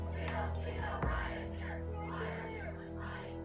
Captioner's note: chanting